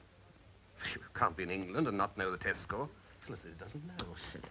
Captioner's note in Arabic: يسخر